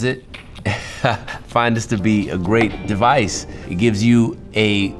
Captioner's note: laughs